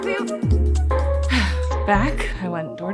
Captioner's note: sighs